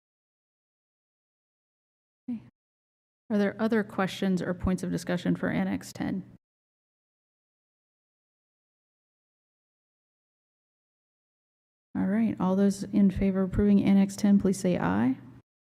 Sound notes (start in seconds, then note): 7.4 silence